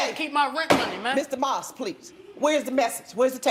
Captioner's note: gavel bangs